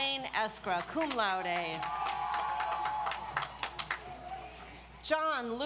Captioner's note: audience applauds